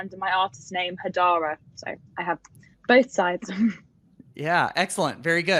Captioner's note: giggles